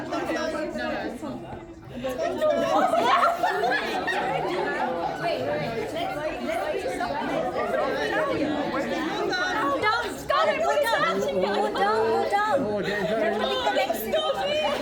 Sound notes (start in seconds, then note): 0.0 crowd chattering; 1.0 laughing